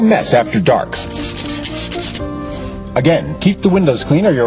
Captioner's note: spraying